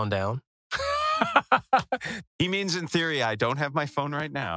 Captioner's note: laugh